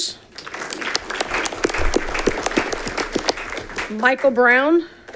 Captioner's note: audience clapping